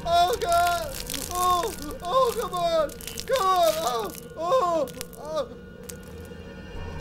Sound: moaning

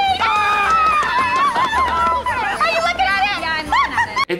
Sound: family cheering

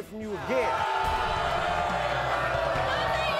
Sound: audience booing

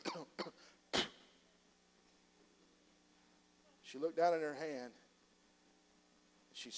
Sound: coughs

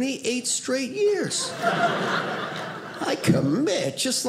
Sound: audience laughing

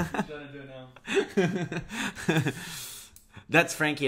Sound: laughs

